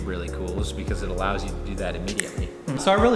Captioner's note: snap